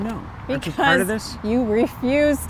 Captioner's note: chuckles